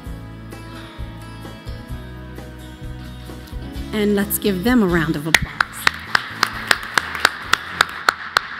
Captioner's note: applause